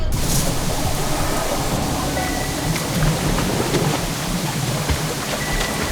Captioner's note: water rushing rapidly